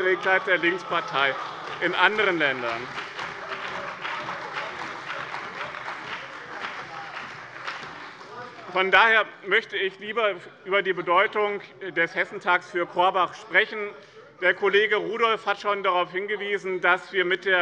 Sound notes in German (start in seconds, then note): 3.0 Beifall bei dem BÜNDNIS 90/DIE GRÜNEN und der CDU